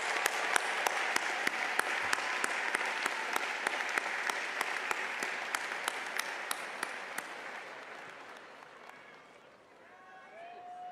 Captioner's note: applause